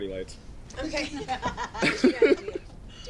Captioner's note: laughing